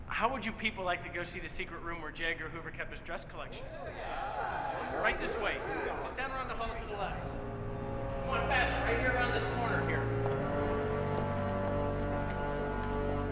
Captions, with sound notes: - How would you people like to go see the secret room where J. Edgar Hoover kept his dress collection? (crowd exclaims excitedly) Right this way. Just down around the hall to the left. Come on, faster. Right here around this corner here. (tense music)